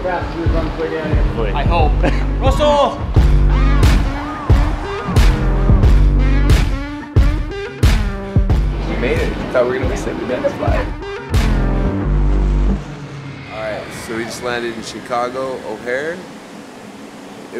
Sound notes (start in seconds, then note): 3.0 deep electric guitar music; 11.2 plane engine roaring